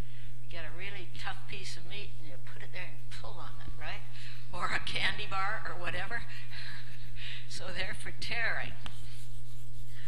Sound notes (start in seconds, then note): 6.2 laugh